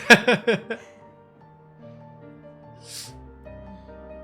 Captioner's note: laughing